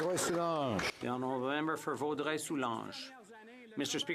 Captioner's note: applause